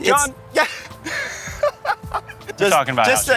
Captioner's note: laughs